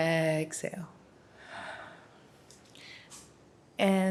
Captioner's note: inhaling deeply; exhaling